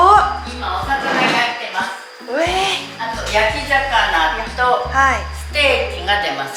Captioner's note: and local speak foreign language